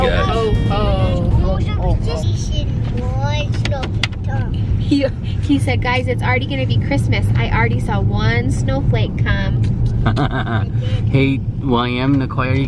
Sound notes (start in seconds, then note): 10.0 laughing